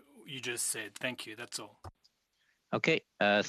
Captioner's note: speaking French